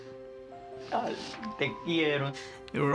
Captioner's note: speaking spanish